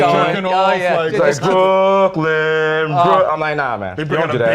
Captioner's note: chanting